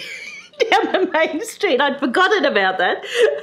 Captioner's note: laughs